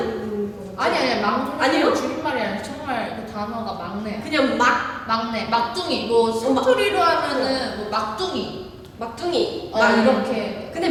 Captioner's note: dialect